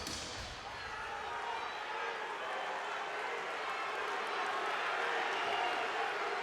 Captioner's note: people chattering indistinctly